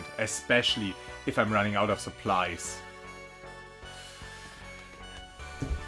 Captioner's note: inhale